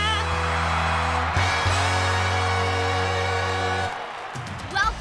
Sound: crowd cheering

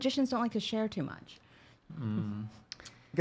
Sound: hums

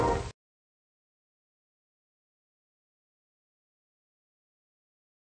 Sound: silence

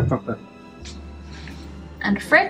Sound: burp

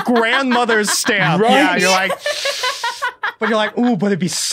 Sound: hisses

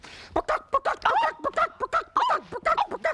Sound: clucking; cries out

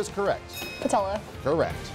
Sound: bell chimes

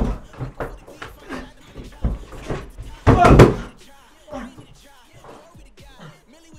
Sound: Loud banging as Lee is jumped

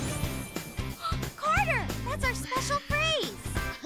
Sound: gasps; laughs

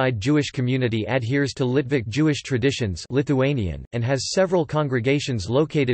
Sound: Lithuanian

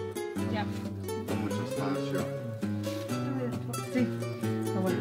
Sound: people talking in background

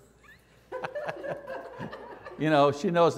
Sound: laughter

